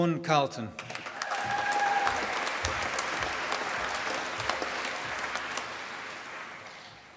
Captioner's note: applause